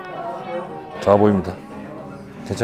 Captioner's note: sad rat noises